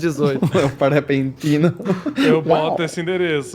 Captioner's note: laughs